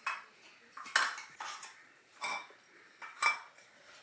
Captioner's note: glass clinking